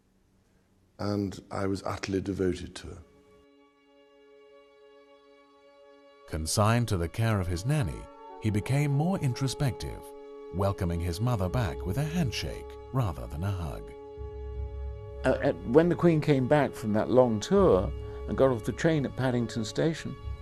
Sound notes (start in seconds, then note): 3.3 solemn music; 6.1 voiceover